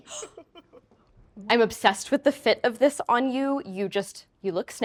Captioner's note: gasps